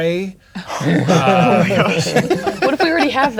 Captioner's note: players laughing